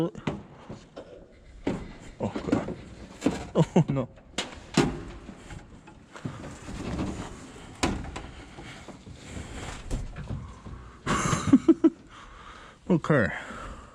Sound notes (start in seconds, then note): 3.4 chuckles; 11.0 laughing